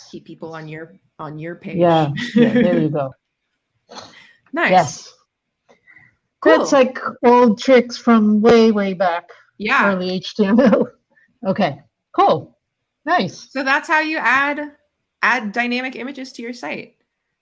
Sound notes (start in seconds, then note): 10.8 laughs